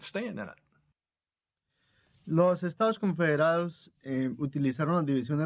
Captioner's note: speaking Spanish